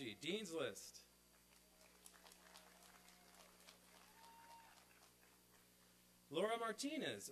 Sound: applause and cheering

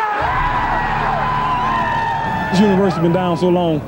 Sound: group cheers

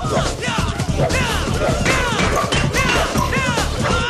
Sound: loud shouting

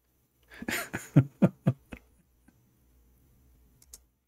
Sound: Ketawa

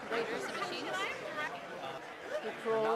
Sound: voiceover; crowd talking

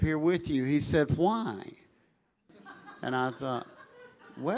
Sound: congregation laughing

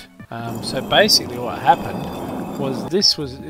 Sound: unholy scraping

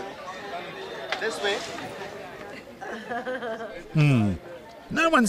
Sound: nervous laughter

